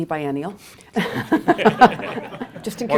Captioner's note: laughter